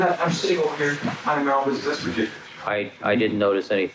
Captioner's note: speaking Spanish